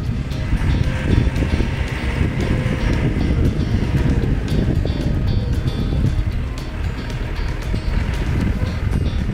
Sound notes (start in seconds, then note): 2.8 engine running